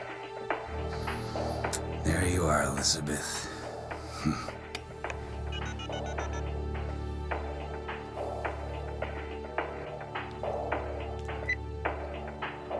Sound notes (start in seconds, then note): 3.9 anthony grunts; 5.5 phone keys beep